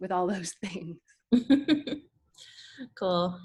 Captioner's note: laughs